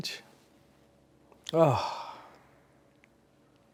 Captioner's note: sighing